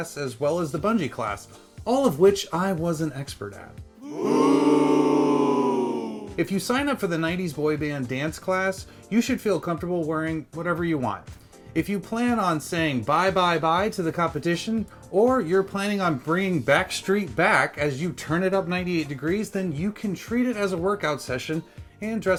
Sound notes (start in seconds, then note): 4.0 booing from a group of onlookers